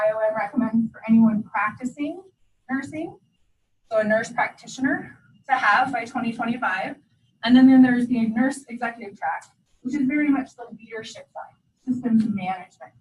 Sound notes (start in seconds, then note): none